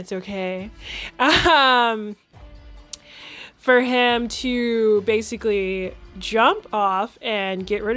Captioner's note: laughs